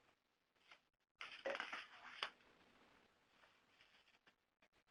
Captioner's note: paper rustling